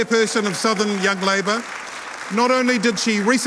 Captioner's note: audience applauding